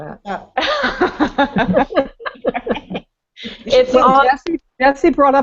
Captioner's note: laughter